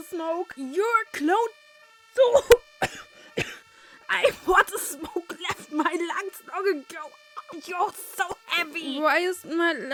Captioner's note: coughing + another audio error. Sorry again